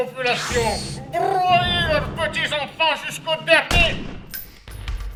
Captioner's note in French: coup de feu